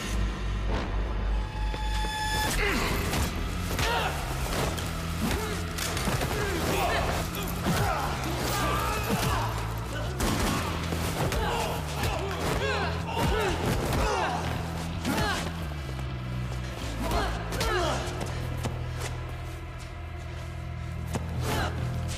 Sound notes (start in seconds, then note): 0.1 tense music; 2.6 blows thudding; 2.6 men groaning; 10.3 blows thudding; 10.3 men groaning; 16.9 blows thudding; 16.9 man groaning